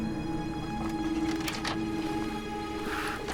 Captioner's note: door opens